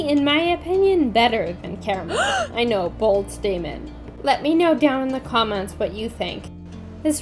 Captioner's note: gasp